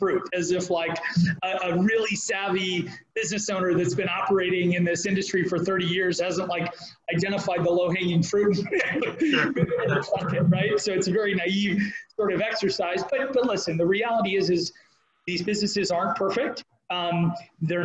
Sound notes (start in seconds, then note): 8.6 both laughing